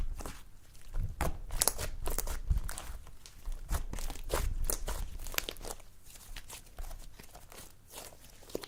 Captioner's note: slime noises